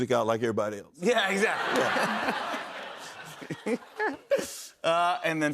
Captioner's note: laughter